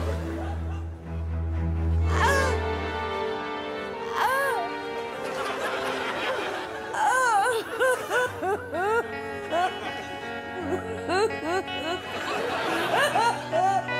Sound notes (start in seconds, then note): 2.2 gasps; 6.9 crying; 11.2 sombre music playing